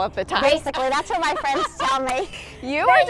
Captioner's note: laughs